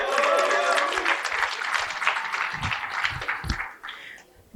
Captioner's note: cheering and applause